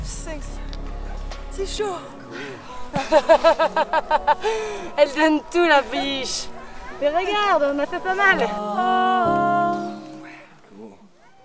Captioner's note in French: rires